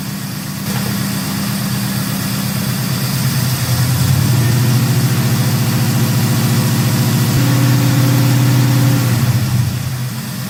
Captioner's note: engine revving